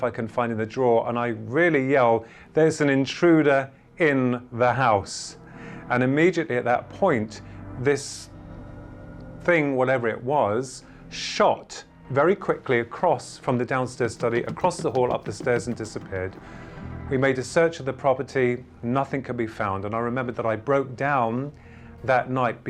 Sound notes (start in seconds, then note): 14.0 running footsteps